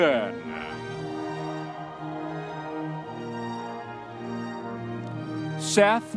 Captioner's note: audience members cheering